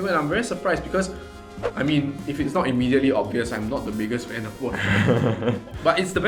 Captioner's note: laughs